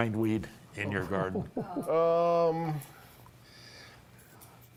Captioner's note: laughter